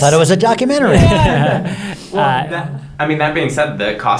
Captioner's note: everyone laughing